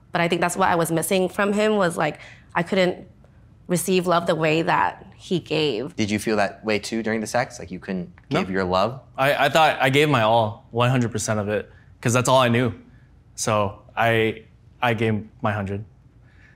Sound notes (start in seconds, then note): none